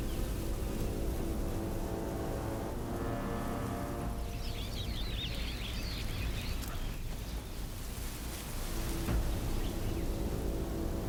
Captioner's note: flies buzzing